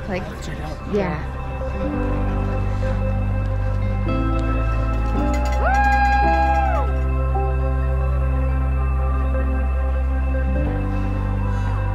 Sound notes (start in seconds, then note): 4.8 bell ringing; 5.1 people cheering